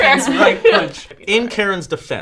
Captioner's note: laughing